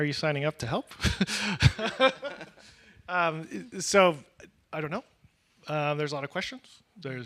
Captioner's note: laughs